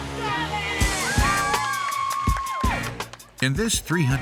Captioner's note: hollers